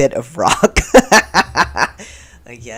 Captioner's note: laughter